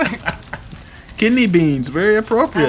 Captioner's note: laughter